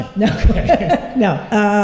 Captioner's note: laughter